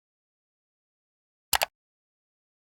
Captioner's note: mouse click